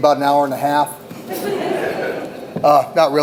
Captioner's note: audience laughs